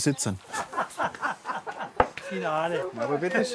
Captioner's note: laughter